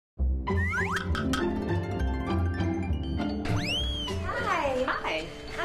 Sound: playful music; logo whistling and clicking

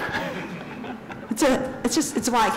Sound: chuckles

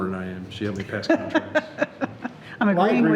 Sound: laughing

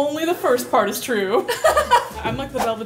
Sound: laughing

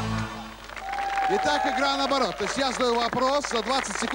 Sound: applause

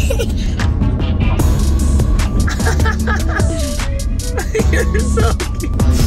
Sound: family continues laughing

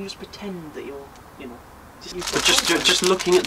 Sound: car noises, driving in background

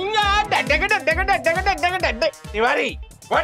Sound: beatboxing

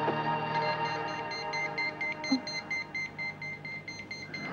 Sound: alarm beeping

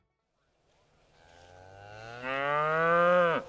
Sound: cow mooing

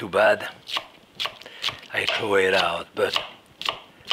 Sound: knife clacking

